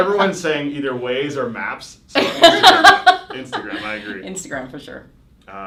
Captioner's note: both laughing